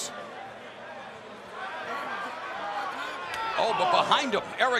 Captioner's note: fans chattering